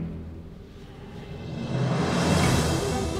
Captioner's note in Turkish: Nefes sesi